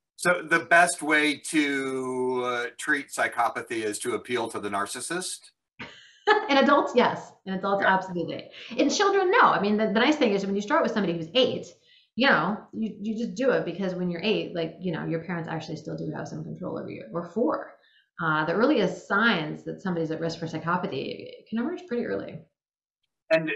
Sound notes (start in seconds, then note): 6.2 laughing